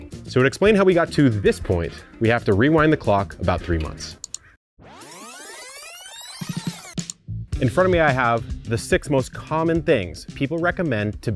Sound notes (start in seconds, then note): 4.8 tape squeaking rapidly